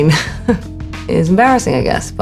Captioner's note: Alexa chuckling